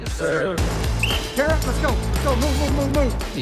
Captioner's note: whistle blows